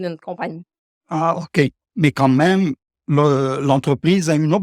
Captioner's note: man speaking French